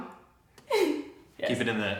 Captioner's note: chuckles